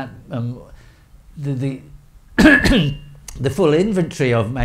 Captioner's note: coughs